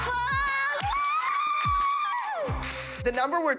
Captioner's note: cheering